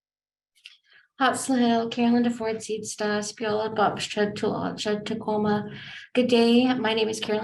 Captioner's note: speaking in Native language